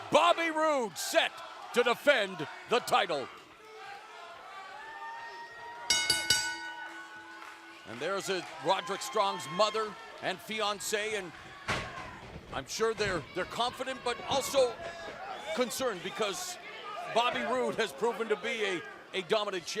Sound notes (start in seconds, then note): 3.6 fans chanting; 5.9 bell ringing